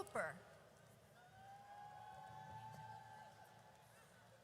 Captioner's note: audience cheers